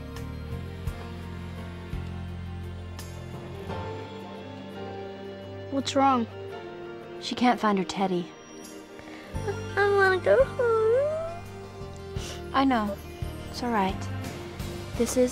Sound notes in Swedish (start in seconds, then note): 10.3 gråter